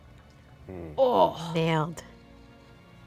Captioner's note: grunts; swears in French